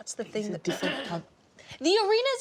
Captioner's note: man clears throat